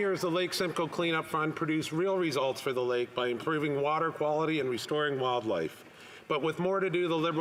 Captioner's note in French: voix de l'interprète